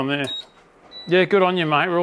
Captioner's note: hotplate beeps